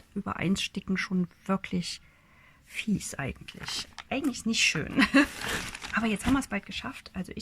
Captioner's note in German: gelächter